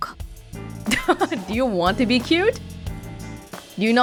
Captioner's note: chuckles